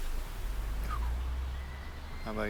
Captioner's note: Chris whistles